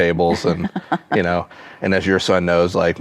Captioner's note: laughs